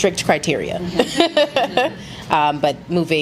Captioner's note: laughs